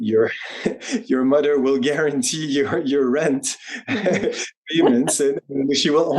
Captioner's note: chuckles